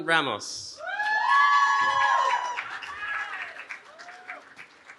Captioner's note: cheering